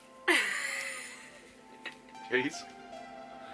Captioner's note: chuckles